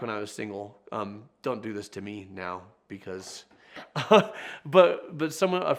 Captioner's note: laughs